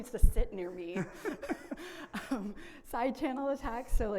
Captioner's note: laughs